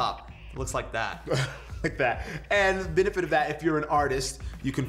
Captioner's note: laughs